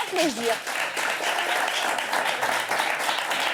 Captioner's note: applause